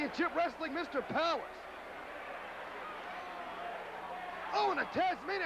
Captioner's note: crowd cheering